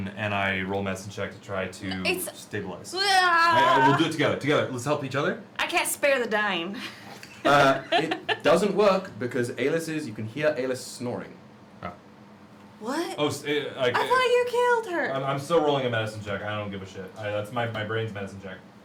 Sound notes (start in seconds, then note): 6.9 laughs